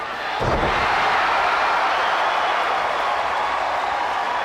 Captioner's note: crowd cheers